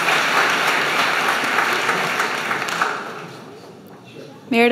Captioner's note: applause